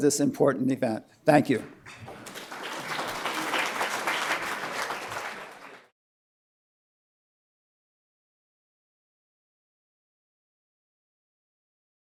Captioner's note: applause